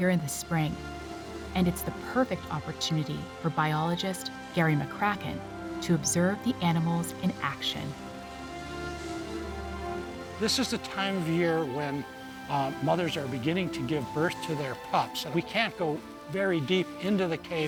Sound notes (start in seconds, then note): none